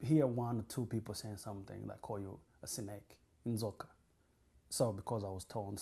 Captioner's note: non-english